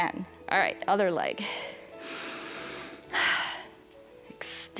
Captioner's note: inhales and exhales